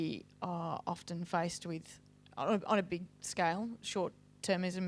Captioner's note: none